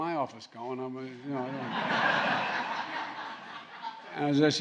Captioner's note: laughter